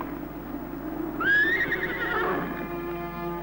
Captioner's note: horses trotting; horse neigh